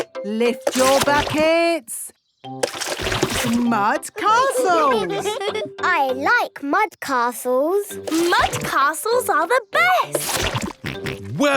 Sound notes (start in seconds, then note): 4.2 all giggling